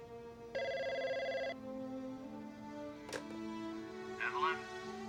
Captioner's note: telephone ringing